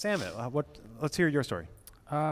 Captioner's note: laughs